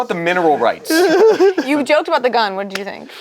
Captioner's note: laughs